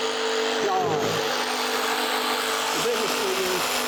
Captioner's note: saw whirring